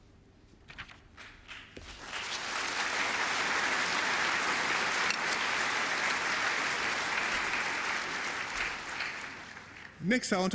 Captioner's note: applause